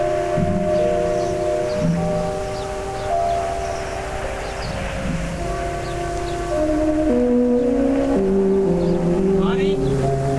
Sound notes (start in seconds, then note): 2.3 birds chirping; 5.3 dramatic music